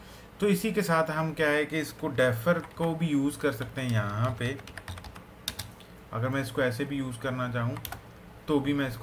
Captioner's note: typing